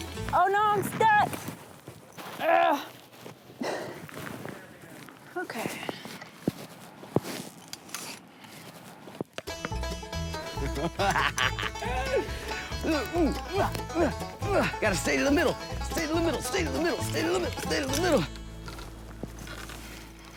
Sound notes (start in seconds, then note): 2.1 grunts; 10.5 laughing; 14.3 grunting